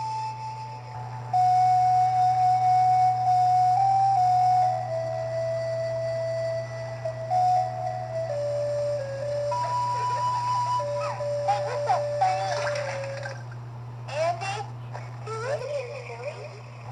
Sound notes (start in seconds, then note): 9.6 giggles